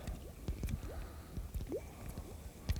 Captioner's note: bloop, Bloop